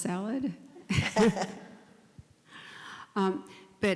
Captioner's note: chuckle